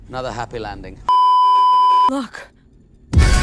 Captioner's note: beeeeeep